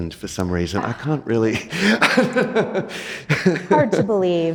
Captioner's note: laughs